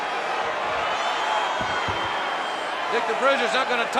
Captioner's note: crowd cheering